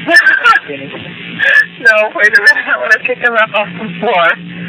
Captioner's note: risas